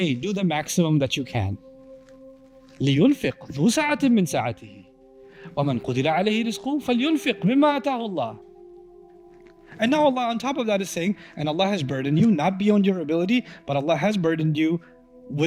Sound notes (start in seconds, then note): 2.8 Arabic